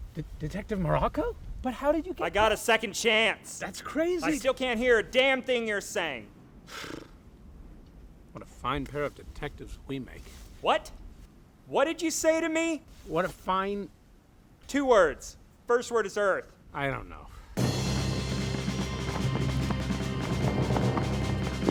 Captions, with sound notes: Detective Morocco? But how did you get here? I got a second chance. That's crazy. I still can't hear a damn thing you're saying. [ BLOWS A RASPBERRY ] What a fine pair of detectives we make. What? What did you say to me? What a fine... Two words, first word is Earth. I don't know. [ FANTIC WESTERN MUSIC PLAYS ]